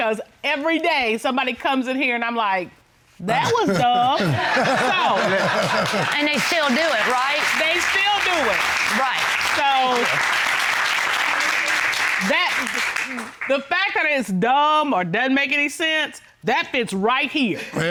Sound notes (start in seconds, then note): 3.4 audience laughing; 10.4 applause